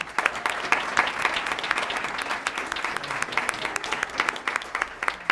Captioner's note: applause